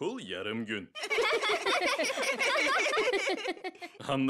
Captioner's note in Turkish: Gülme sesleri